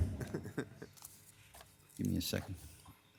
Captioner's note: laughing